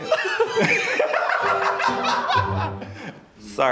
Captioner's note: group laughing